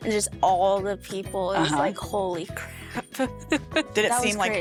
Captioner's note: laughing